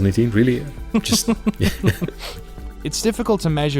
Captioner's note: laughing